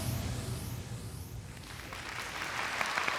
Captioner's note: applause